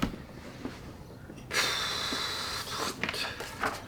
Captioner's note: deep sigh